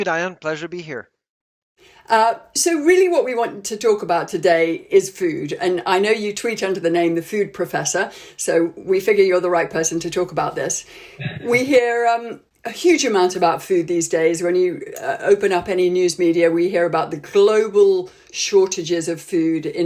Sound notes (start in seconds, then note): 11.2 laughs